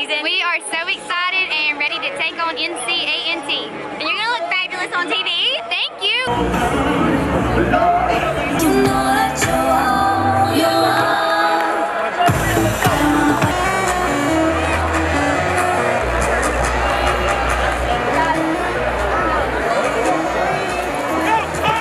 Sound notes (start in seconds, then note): 6.6 stadium noise